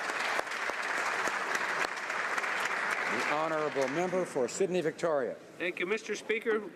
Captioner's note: some Applause